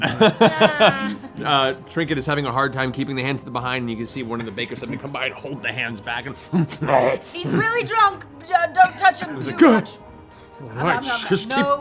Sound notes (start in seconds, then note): 0.0 laughs; 6.4 growls aggressively